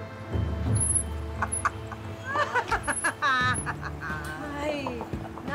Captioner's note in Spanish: Risas